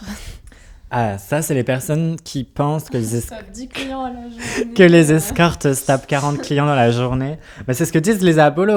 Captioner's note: laughs